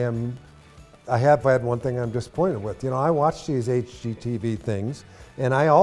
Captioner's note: none